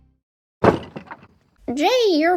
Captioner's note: door closing